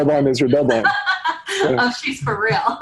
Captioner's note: laughs